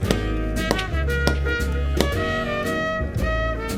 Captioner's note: keyboard slamming